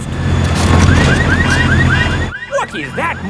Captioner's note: car alarms blaring